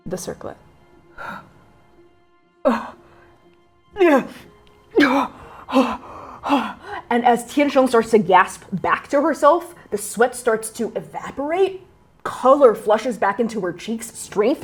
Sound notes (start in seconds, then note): 2.6 groaning, gasping in pain, then clarity